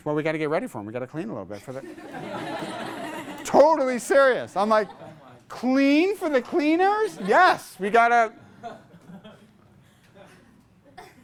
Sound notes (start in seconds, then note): 1.8 class laughs